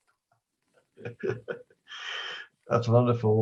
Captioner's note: laughing